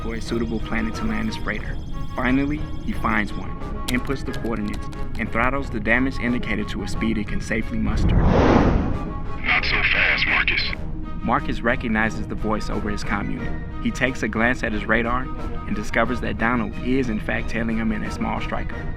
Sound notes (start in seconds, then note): 10.0 radio reverb